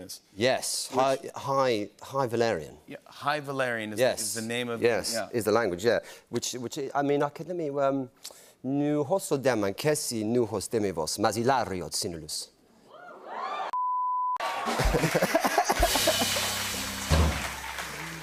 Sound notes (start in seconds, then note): 7.9 Speaking High Valyrian; 9.3 cheers and applause; 14.6 both laugh